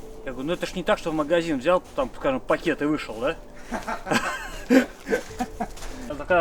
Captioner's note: laughs